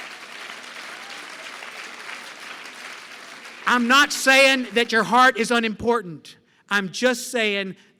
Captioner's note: applause